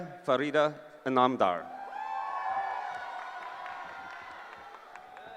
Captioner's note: cheering